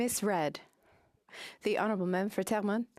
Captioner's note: speaking French